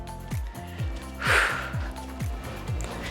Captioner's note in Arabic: زفير